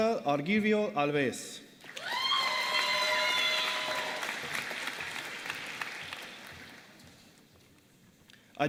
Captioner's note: applause